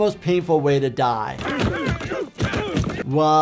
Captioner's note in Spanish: Pedro y Homero gruñendo